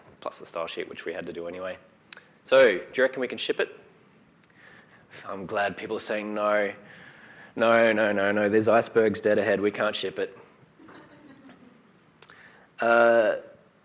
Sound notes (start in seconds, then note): 10.8 laughter